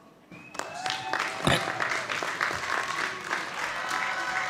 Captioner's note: audience applauding